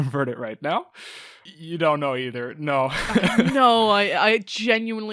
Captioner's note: laughs